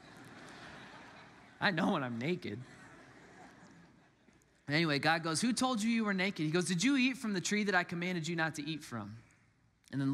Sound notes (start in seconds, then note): 0.0 congregants laugh